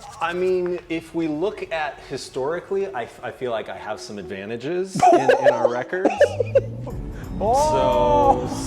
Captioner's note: laughing